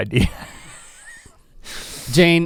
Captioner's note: chuckles